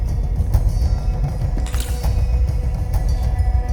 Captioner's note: case clicking shut